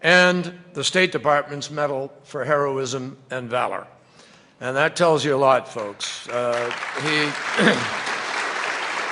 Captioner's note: applause